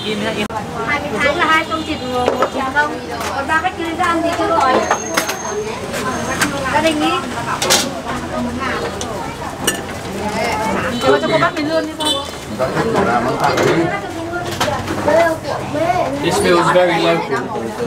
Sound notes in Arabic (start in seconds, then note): 0.9 الثرثرة الخلفية